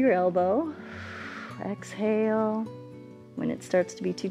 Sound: exhales

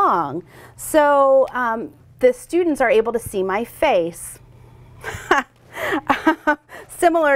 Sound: laughs

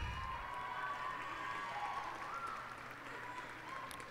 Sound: cheers and applause

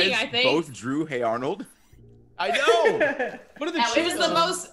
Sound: laugh

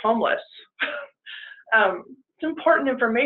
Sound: chuckles

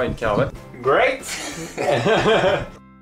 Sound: laughes

